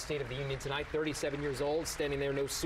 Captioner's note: applause